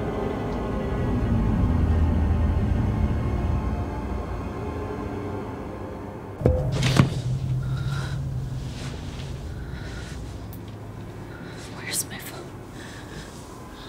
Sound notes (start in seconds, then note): 6.4 baseball bat hits floor